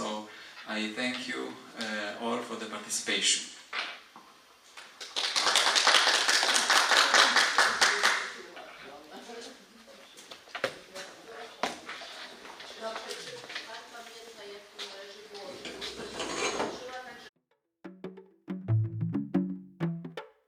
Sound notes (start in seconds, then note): 5.1 audience applauds; 10.2 upbeat music